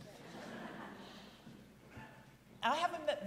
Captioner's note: audience laughing